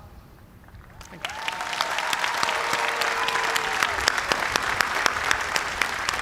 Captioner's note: cheers and applause